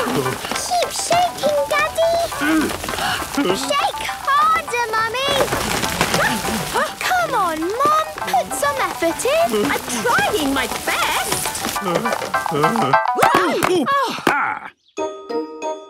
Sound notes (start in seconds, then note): 0.0 all panting; 2.3 all groaning; 6.1 exclamations; 10.7 groaning; 11.8 exclamations